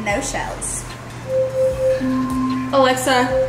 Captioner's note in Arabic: أليكسا تتناغم